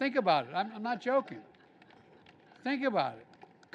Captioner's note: laughter; applause